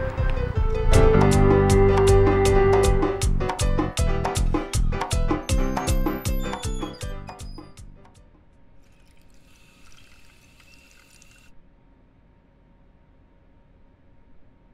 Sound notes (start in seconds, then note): 3.5 bathroom door open; 7.3 music fades; 8.8 running water